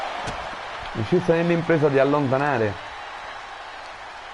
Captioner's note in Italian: Applauso